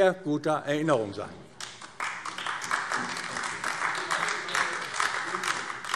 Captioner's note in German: Beifall AfD